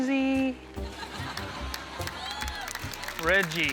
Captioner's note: cheering